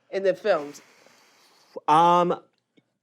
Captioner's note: exhales